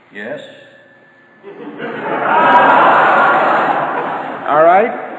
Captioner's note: audience laughter